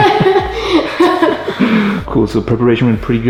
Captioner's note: laughing